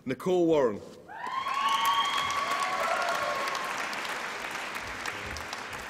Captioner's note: applause and cheering